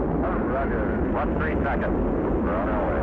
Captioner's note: rocket engine rumbling